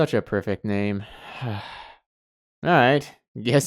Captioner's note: sigh